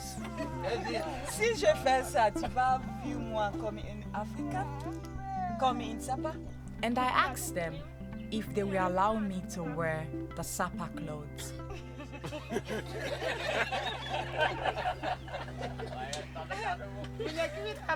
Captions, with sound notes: [SPEAKING IN FRENCH] And I asked them if they would allow me to wear the Sapa clothes. [LAUGHTER] [SPEAKING IN LOCAL LANGUAGE]